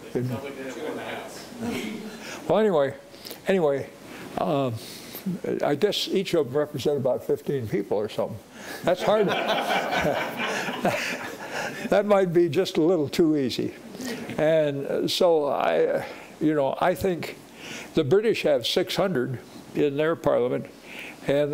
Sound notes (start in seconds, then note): 9.0 audience laughing